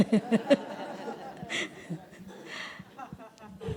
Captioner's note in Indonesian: Suara tertawa